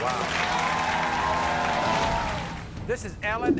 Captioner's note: applauding